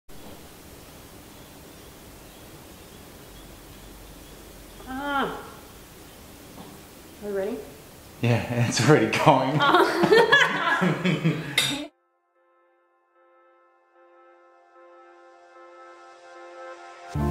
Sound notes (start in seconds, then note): 4.8 woman groans; 8.2 laughing; 13.7 soft music